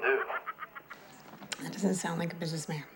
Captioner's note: woman laughing